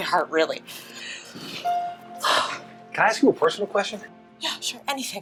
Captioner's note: sighs in relief